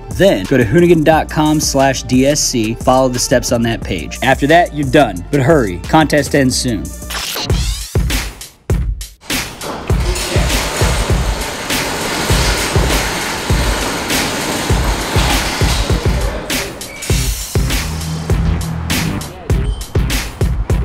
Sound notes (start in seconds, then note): 7.1 tape rewind; 8.7 gentle music; 11.9 shop door opening; 15.8 gentle music